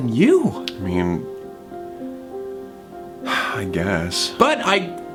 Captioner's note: sighs